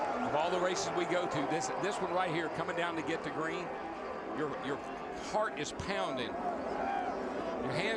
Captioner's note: applause